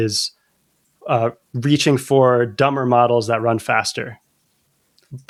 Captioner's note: uh